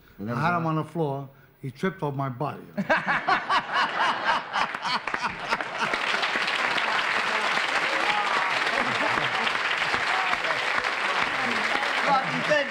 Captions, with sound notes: I had him on the floor, he tripped on my body. (laughter) -Rocky, thank you for being here